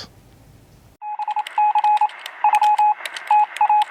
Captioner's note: electronic Beeping